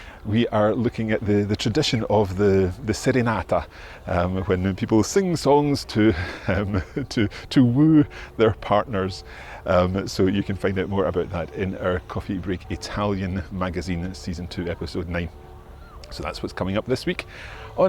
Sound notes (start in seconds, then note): 5.8 chuckles